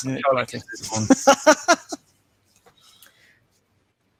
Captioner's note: laughs